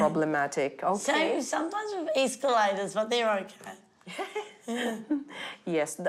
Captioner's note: chuckles